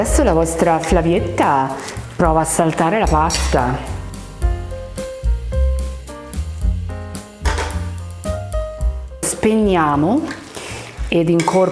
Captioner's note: speaking Italian